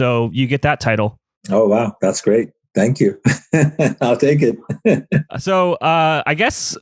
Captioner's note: laughs